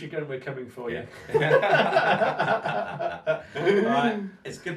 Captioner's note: both men laugh